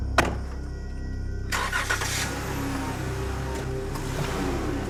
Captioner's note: engine starting